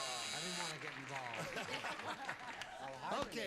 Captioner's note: laughs